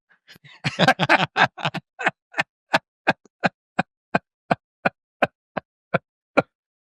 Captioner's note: laughter